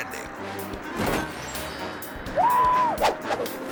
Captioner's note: whimsical music; parachute whips; people hooting